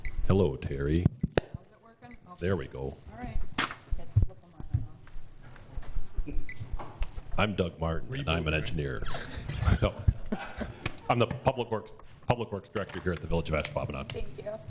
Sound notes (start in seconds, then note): 8.6 all laughs